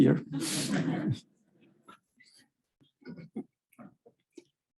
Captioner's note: audience laughing